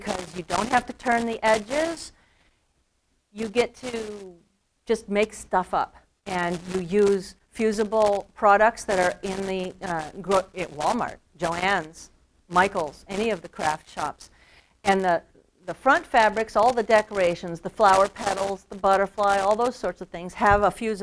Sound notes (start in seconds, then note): none